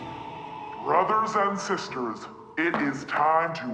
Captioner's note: dramatic music; television Voice